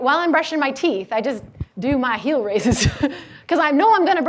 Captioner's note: laughs